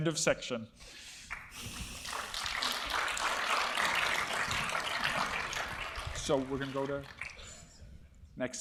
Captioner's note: applause